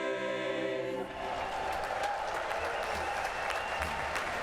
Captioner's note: cheering and applause